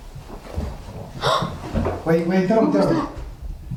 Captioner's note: gasp